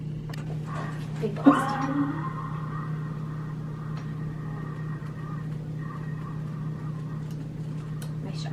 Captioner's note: blowing out a deep breath